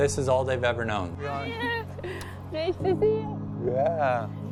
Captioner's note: indistinct chatter